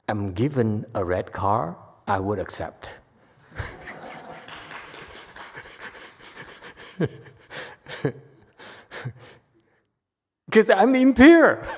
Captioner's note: laughs; audience claps